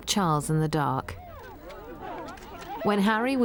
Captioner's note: crowd clamoring